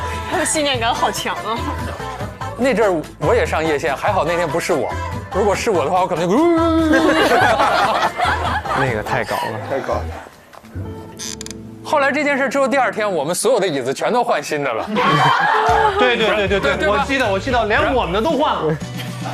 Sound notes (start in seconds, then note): 9.3 laughs